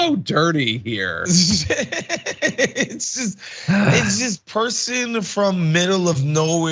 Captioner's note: laugh